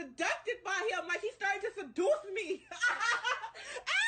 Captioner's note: screaming